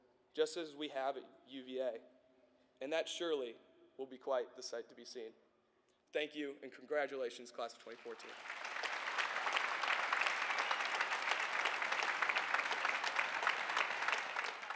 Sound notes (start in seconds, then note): 7.8 applause